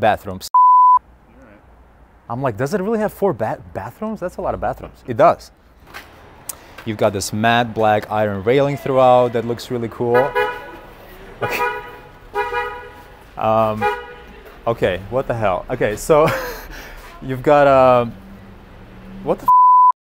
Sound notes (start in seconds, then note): 11.3 car keeps honking; 11.4 car honks; 16.1 chuckles